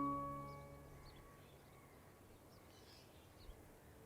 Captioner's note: birds chirping